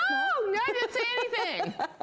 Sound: laughter

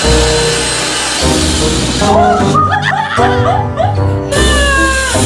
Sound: funny sounds

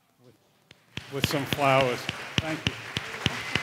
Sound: audience applause

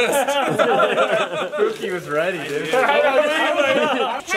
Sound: laughter

